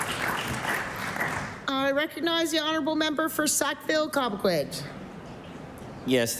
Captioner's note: applause